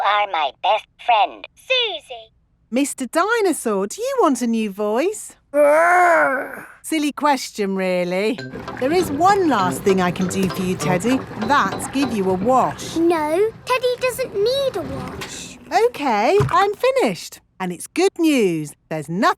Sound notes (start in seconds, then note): none